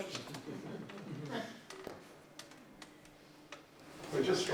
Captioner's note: laughter